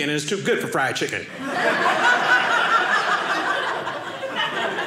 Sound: audience laughing

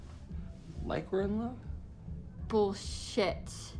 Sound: solemnly

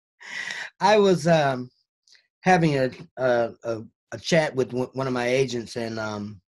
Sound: gasps

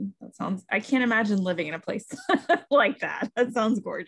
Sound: laughs

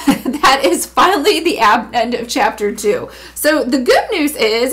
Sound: chuckles

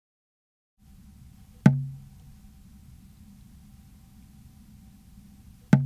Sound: sap dripping into bucket

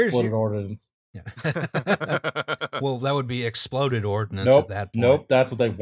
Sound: laughter

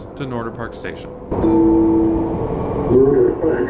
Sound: bell

